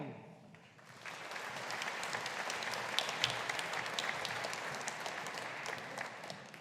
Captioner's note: audience applauding